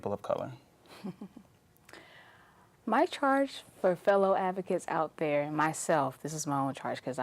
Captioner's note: chuckles